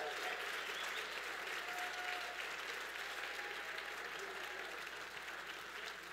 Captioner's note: audience applause and cheers